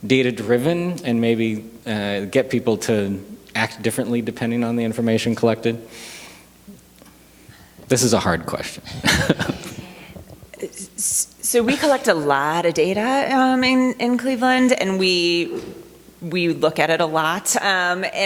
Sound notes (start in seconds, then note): 8.7 chuckles